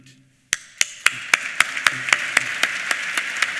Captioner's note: applause